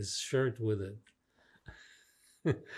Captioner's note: laughing